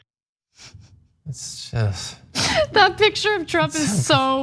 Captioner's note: laugh